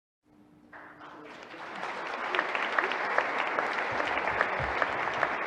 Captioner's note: audience applauding